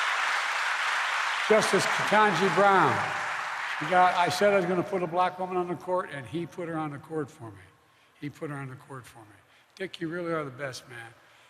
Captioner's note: applause